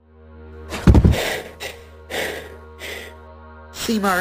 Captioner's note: solemn music; panting